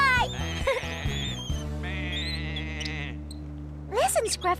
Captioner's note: sheep Bleating